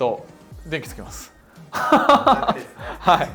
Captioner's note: laughs